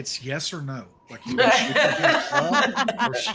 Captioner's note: all laugh